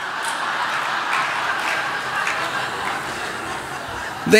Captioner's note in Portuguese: Risos